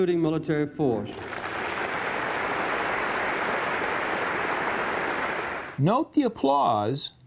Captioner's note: applause